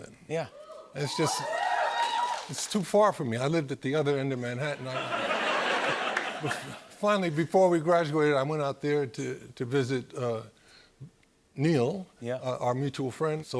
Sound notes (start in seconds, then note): 0.6 crowd cheers; 4.8 laughter